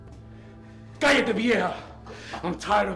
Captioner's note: Spanish